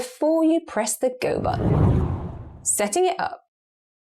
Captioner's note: video effect whooshes